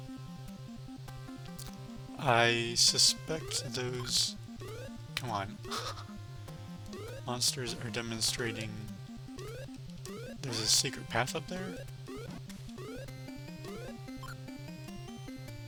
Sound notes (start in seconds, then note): 5.6 laughs